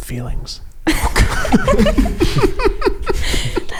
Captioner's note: laughing